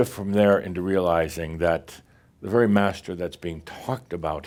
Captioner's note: none